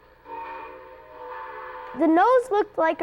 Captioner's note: horn blowing